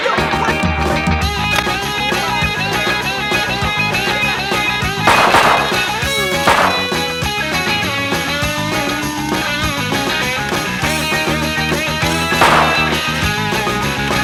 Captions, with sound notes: What are you doing? (shots fire) (shot fires)